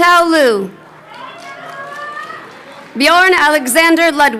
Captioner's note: audience member chattering